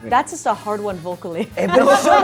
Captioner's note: laughing